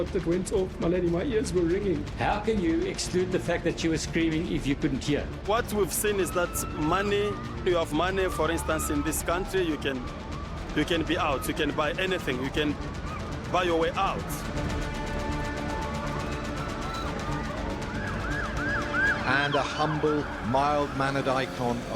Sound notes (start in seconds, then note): 14.4 dramatic music; 18.6 sirens wailing